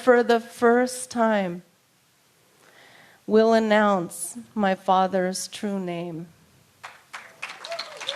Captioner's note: applause